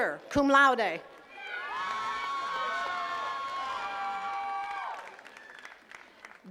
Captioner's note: attendees cheering and clapping